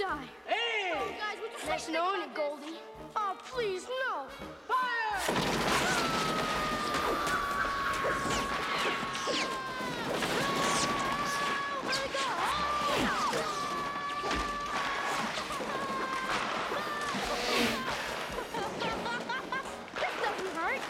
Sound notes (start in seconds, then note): 6.5 screaming; 12.9 screaming; 15.7 laughing